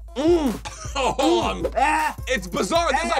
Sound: coughs

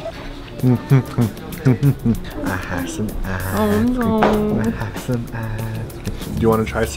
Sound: humming

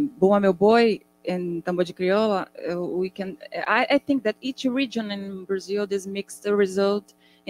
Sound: speaking in Portuguese

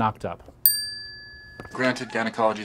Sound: bell dings

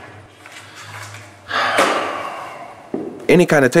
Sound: Judge Kelly sighs

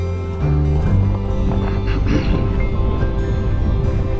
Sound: wind rushing

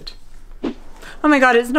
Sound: whoosh

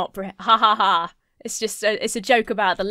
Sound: imitates laughter

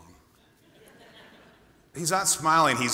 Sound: laughter

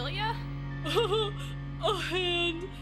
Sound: laughing

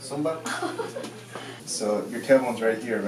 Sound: woman laughs

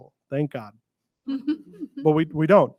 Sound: board members chuckling

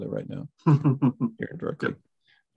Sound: chuckles

